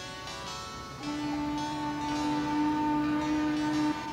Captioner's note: train horn